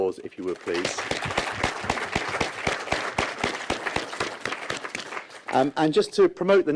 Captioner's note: applause